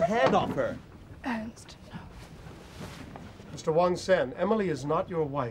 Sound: none

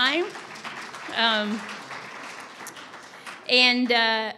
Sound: audience applauding

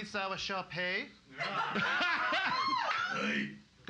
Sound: loudly laughing

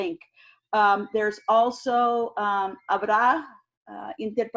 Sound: speaking in foreign language

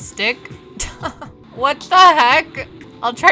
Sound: chuckling

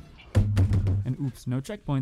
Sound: banging on table

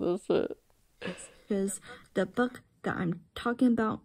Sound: laughing

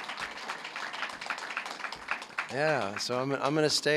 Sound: applause

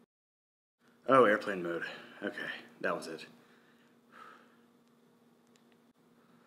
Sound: breathes

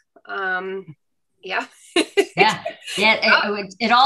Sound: laughs

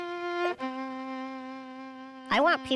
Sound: voice heard over the music

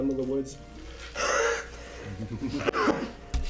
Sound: wheeze

